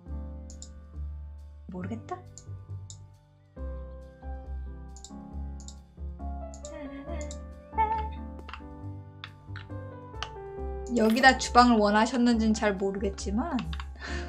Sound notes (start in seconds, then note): 6.6 humming in the background